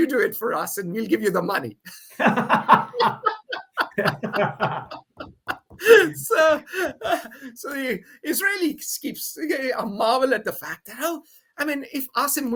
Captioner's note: both laugh